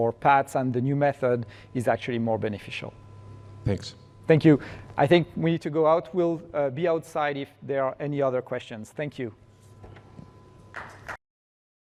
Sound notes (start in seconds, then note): 10.7 applause